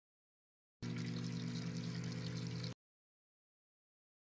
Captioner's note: peeing